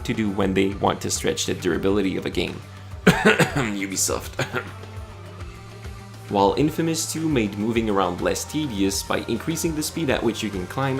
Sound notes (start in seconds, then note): 3.0 cough